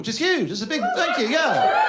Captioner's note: cheer